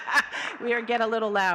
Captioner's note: all laughing